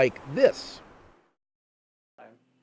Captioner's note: silence